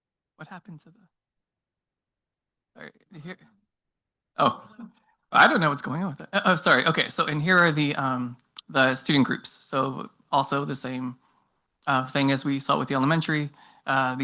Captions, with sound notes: What happened to the? All right, here. (staff member speaking faintly) - Oh. I don't know what's going on with it. Oh, sorry. Okay. And here are the student groups. So also the same thing as we saw with the elementary.